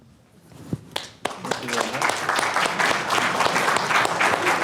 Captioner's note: audience claps